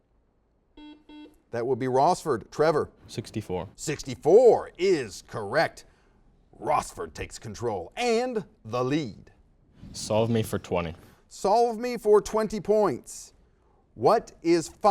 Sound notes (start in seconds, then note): 0.8 series of beeps